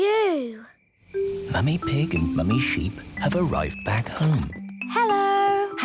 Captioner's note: whispering